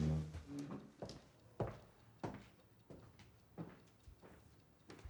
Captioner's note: footsteps clack